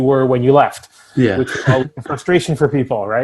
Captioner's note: chuckles